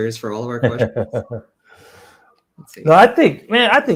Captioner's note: laughs